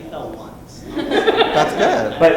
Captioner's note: laughter; voiceover